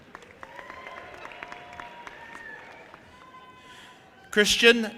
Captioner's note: audience applauding and cheering